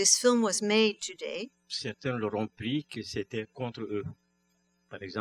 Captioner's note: speaking french